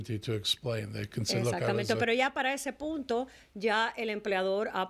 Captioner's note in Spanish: Hablando ingl\s